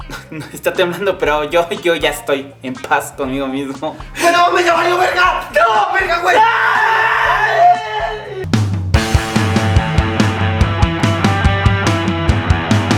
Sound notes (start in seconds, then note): 7.2 they both yell